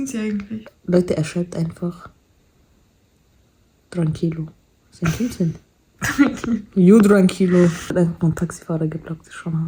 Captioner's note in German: gelächter